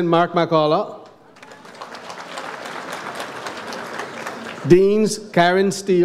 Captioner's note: audience applauds